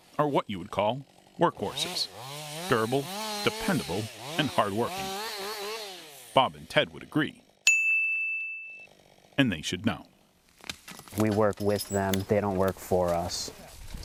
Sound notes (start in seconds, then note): 7.6 bell rings